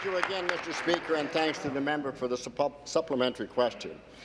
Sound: applause

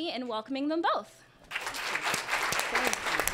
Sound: applause

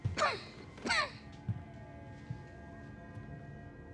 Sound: Black Noir coughs

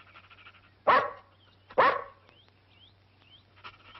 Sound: dog barking

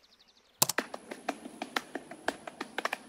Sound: rhythmic slapping, thumping

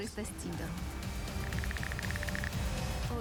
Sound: letters clicking; music intensifies

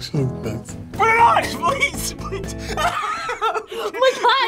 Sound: laughs

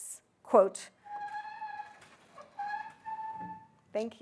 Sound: door squeaks

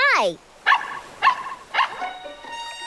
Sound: barking

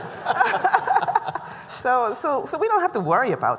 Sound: laughter

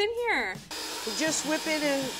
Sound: mixer whirring

